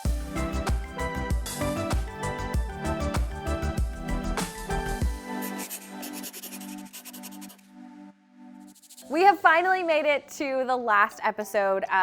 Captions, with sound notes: (lively music) (pencil scratching) We have finally made it to the last episode